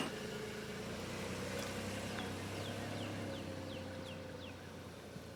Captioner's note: car engine revving